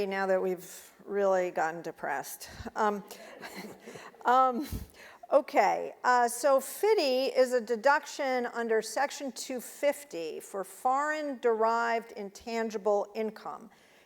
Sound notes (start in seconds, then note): 3.4 audience laughing